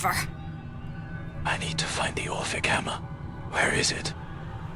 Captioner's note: whispers